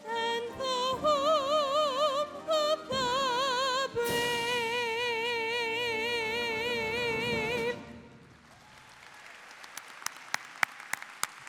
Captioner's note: cheers and applause